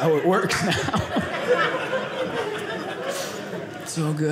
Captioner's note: audience laughing